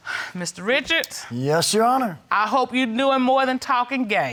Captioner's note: exhales